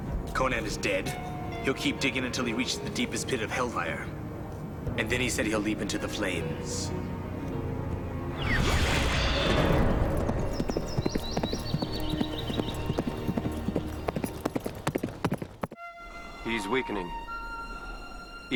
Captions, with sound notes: - Conan is dead, he'll keep digging until he reaches the deepest pit of hellfire. And then he said he'll leap into the flames. (ethereal woosh) (horse galloping) (birds chirping) - He's weakening. (somber orchestral music)